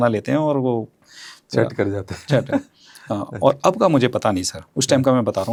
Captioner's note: laughs